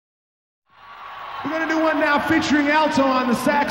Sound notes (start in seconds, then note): 0.6 crowd cheers